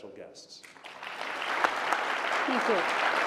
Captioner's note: applause